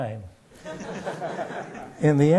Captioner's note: laughter